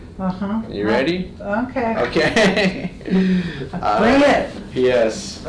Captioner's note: laughs